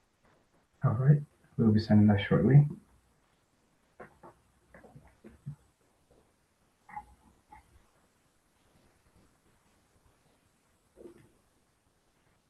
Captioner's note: pause